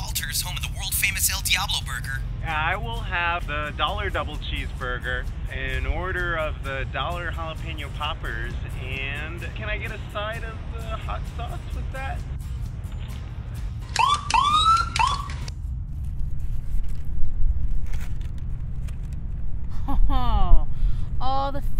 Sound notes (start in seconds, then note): 13.9 police siren blaring